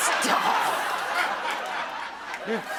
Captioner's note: applause